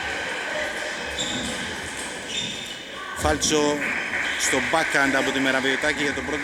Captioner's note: applause